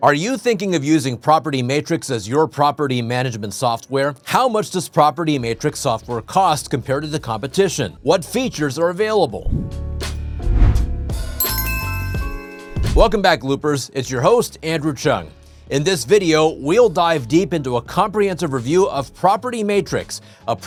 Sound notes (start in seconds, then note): 10.3 logo whooshes; 11.4 logo chimes